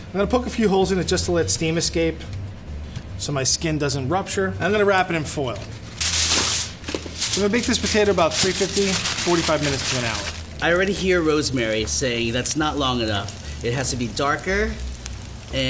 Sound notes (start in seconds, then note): 5.9 rips tin foil